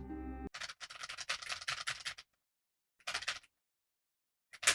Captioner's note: typing noise